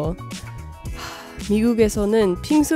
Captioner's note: sigh